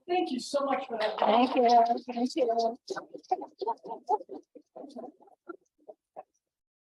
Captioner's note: laughs